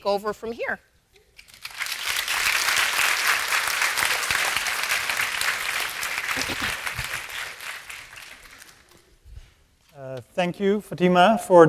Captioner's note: applause